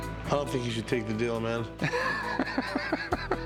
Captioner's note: laughs